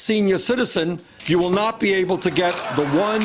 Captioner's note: laughter